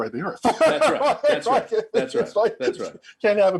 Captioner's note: laughing heartily